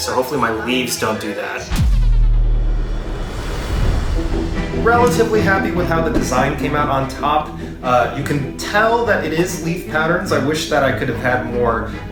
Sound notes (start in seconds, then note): 1.2 dramatic music; 1.6 whoosh